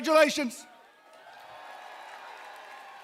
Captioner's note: cheering, applause